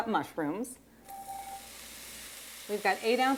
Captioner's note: sizzling